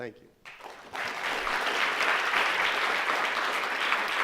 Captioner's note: crowd applauds